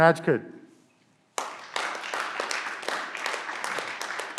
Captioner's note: clapping